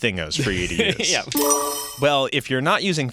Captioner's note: chiming